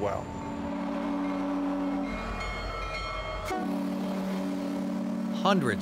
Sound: train whistles

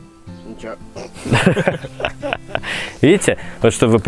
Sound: laughing

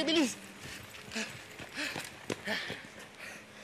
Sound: both panting

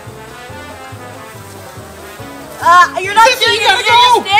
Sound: water spraying

